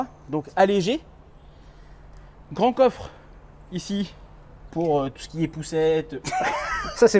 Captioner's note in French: rires